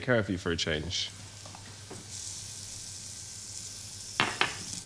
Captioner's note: food sizzling